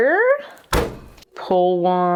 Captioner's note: cutter thuds